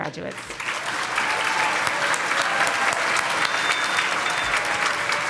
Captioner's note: congregation clapping